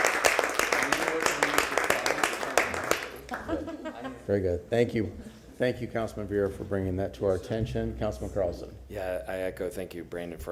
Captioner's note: applause